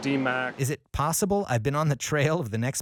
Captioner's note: voiceover